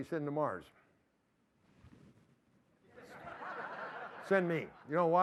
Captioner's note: laughter